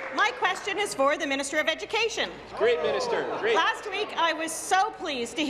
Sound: applause; cheers

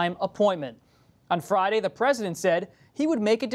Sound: none

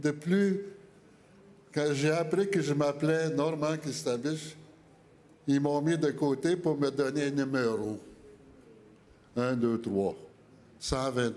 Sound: speaking French

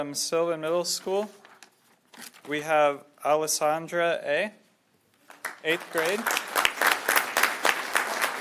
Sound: applause

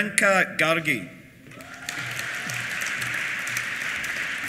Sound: applause; cheers

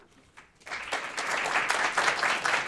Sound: applause

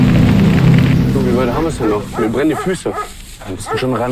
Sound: dog barks, light wind

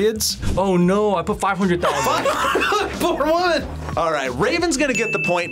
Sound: laughs

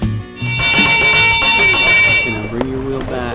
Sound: ringing bell

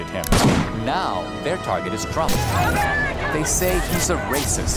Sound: protestors chanting

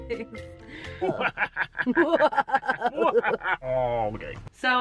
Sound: evil laughter

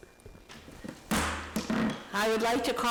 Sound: banging

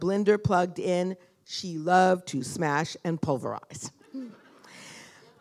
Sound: chuckle

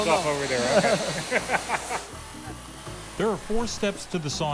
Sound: laughs

